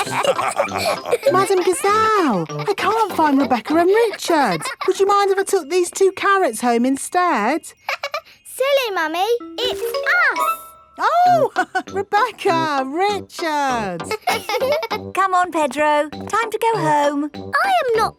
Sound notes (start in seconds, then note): 0.0 all laughing; 8.2 laughs; 13.7 both laughing; 13.8 chuckles